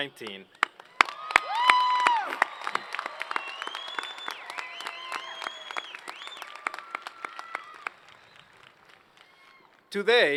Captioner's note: applause